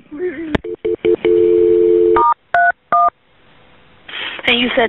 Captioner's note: phone dialing